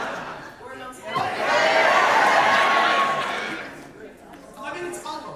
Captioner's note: audience laughter; audience cheer